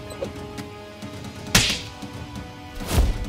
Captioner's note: Slaps